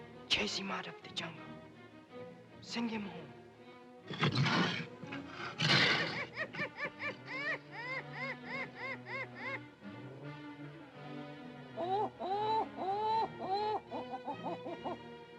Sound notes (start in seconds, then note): 4.0 panther growls; 6.3 ominous music; 7.7 monkey hoots; 9.9 ominous music; 11.7 monkey hoots